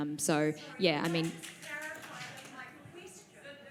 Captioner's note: audience chatters